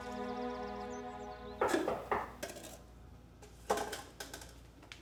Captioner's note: knocking on door